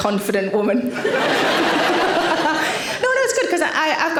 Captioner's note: audience laughing